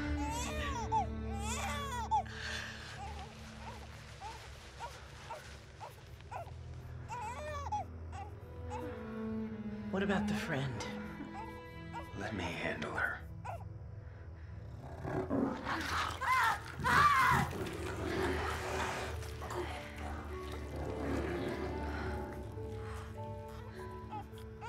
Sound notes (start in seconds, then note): 14.6 growling; 15.5 biting, screaming; 24.5 baby crying